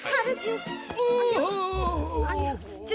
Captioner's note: groaning